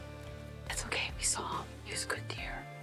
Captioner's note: whispering